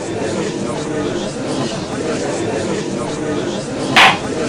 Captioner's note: gallery chattering; gavel slams!